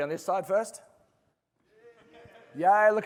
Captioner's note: laughter